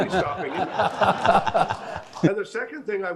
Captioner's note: laughing